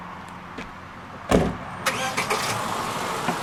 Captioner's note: door slam, engine starts